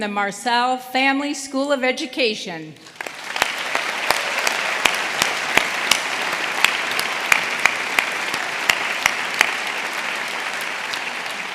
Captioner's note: applause